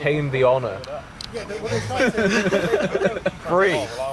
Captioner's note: laughter